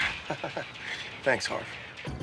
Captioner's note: laughs